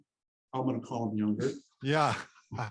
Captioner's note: laughs